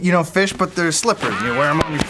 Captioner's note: ricochet